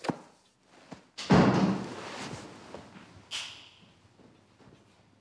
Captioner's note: door slamming